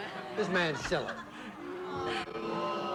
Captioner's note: audience boos